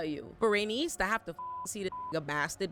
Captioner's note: beep